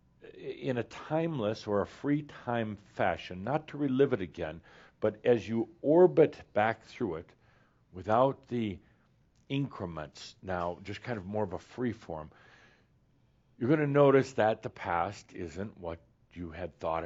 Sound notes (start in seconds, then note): none